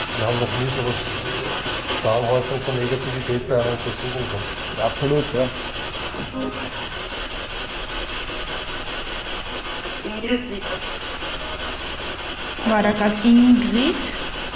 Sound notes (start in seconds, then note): 6.0 radio noise from the spirit box